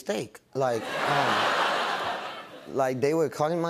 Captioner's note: laughter